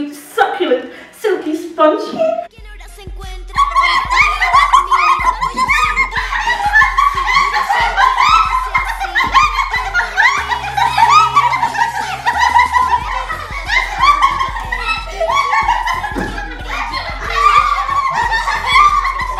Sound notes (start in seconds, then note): 2.4 same hip hop song; 4.1 all laugh extremely